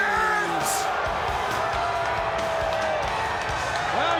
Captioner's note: crowd cheering